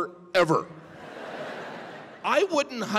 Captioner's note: audience laughing